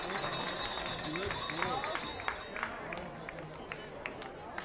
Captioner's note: chatter